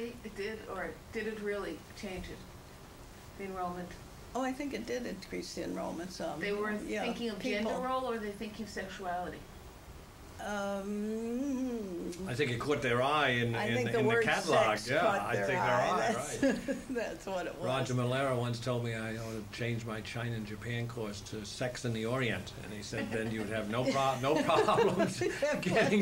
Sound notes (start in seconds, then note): 16.0 laughs; 23.0 laughter